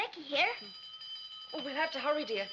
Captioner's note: school bell rings